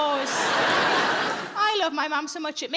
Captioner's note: audience laughing